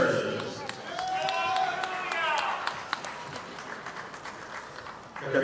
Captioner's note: audience applauding